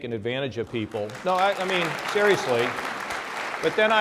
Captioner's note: applause